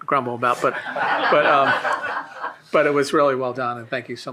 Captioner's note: shared laughing